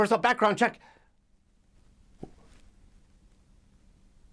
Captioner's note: silence